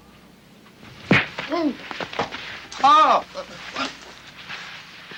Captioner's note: Forbes grunts